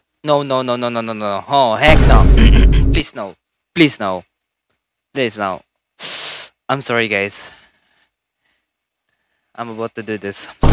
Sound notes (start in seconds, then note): 1.8 vine sfx boom